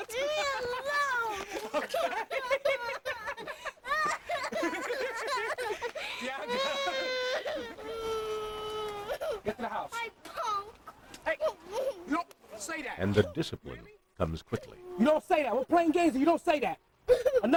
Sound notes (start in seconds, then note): 2.0 laughs loudly